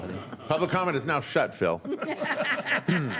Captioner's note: laughter